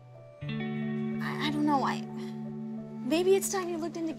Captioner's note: sighs